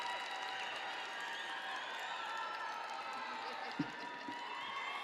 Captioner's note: audience cheering and applauding